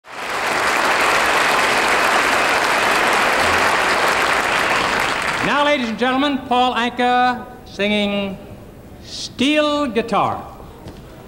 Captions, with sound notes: (AUDIENCE APPLAUDS) - NOW, LADIES AND GENTLEMEN PAUL ANKA SINGING "STEEL GUITAR."